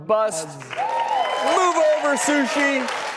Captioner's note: audience cheers